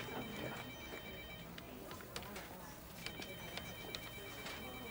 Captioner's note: phone rings